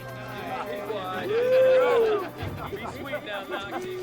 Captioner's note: Knox and Dalton grunting; soldiers jibing